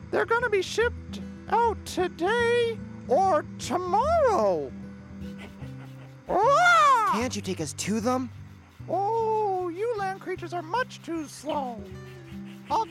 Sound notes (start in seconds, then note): 6.4 רופרט צועק